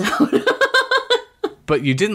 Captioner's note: laughs